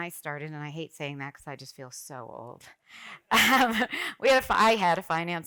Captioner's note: laughs